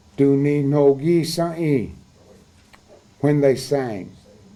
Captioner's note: speaking cherokee